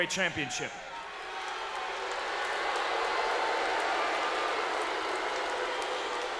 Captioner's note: crowd cheers, boos, and claps